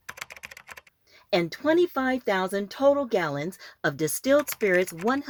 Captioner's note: SFX typing; SFX typing